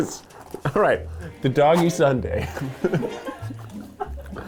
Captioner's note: laughs